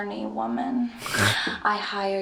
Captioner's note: chuckles